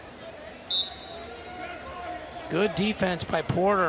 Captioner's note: whistle blows